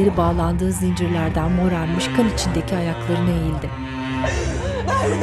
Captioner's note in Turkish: Ağlama sesleri